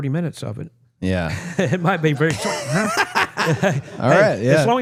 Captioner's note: laughing